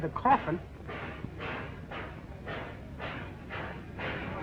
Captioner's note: clanging